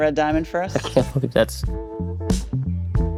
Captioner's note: chuckles; smooth jazz music